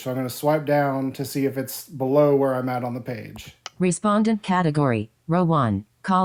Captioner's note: click